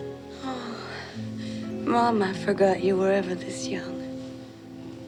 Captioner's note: sighs